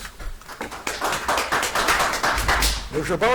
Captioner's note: audience applauds